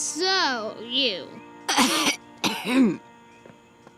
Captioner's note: clearing throat